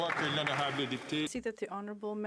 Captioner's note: applause